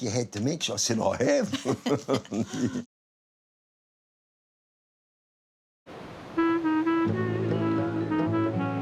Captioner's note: both laugh; old-timey music